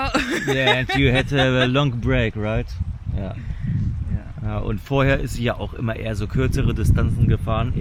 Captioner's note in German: gelächter